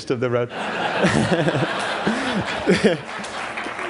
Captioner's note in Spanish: Risas